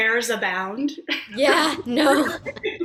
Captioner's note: laughs